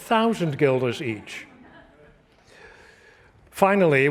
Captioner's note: laughter